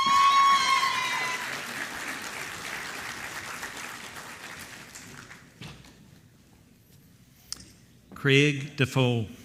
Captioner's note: applause